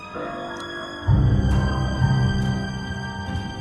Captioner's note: rain drip